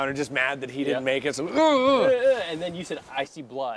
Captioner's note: groaning